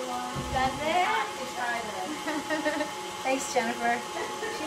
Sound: laughs

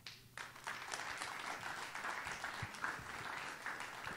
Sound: audience applauding

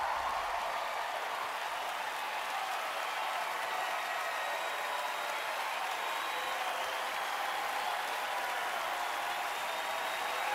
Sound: cheering, applause

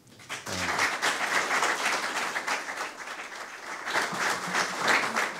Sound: audience applause

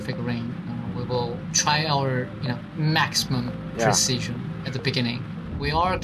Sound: on the radio

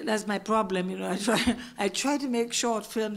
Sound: laugh

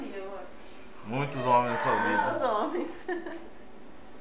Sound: laughs

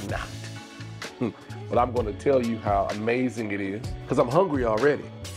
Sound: chuckles

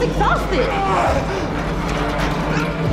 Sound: groaning

